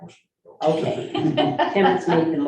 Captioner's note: laughing